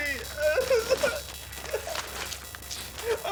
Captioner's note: whimpering